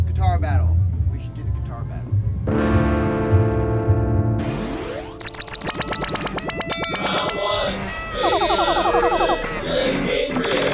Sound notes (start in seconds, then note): 2.5 guitar strum; 6.2 video game sounds